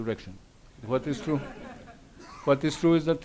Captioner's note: audience laughs